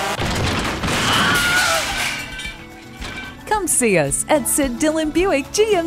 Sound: crash, owww

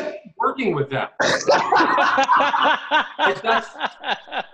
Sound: laughing

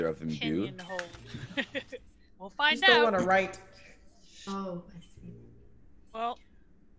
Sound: laugh

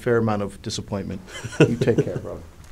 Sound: laughs

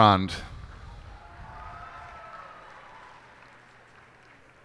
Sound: cheers and applause

